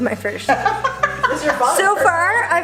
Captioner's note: laughs